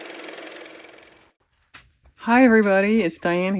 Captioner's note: car motor